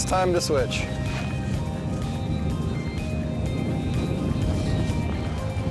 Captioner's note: wind blowing